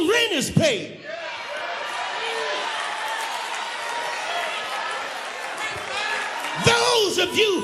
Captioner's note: applause